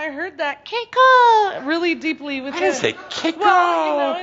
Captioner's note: in a small high voice; mimicking her